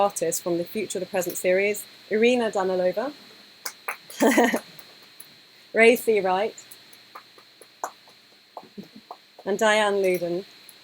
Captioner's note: applause